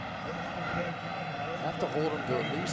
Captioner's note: pa announcement